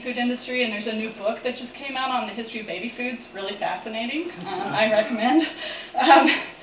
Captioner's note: laughter